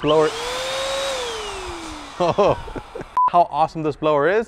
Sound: blower roaring

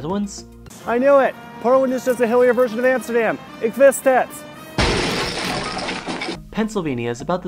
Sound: crash

